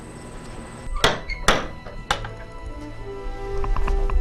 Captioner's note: door Knock